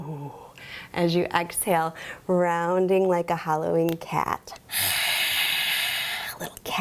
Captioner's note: hisses